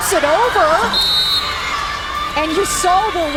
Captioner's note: whistle blows